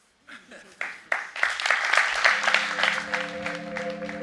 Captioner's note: audience applauds